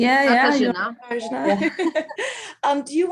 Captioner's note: multiple speakers laugh